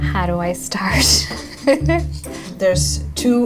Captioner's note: laughing